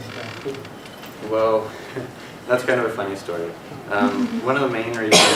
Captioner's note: laugh